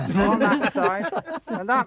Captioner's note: men laughing